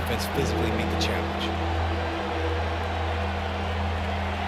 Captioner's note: crowd roaring